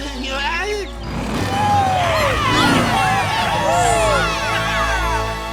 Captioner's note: cheering